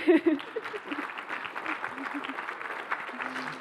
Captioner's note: applause